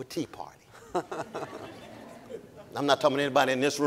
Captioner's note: audience laughing